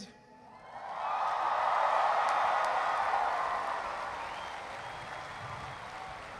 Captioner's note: cheering